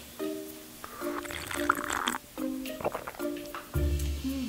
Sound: slurping

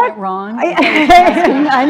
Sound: laughter

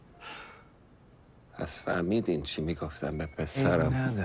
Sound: speaking Farsi

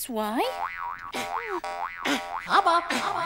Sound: bounces

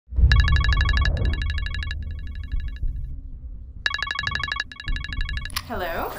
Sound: phone rings

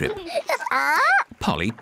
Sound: polly squawks

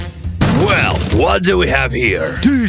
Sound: whispering

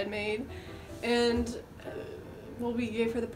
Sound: sighs

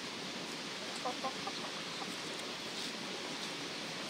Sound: sound of hens

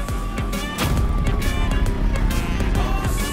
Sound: bike sound

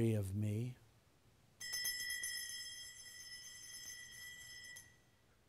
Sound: bell ringing

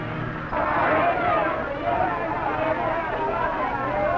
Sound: people clamoring

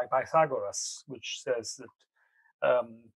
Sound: speaks in foreign language

